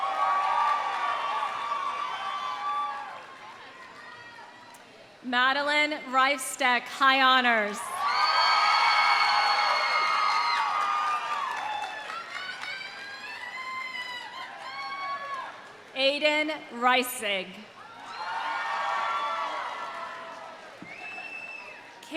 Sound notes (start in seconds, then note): 0.0 audience applauding; 0.0 audience cheering; 8.0 audience cheering; 8.0 audience applauding; 15.6 cheers; 17.8 audience cheering; 18.0 audience applauding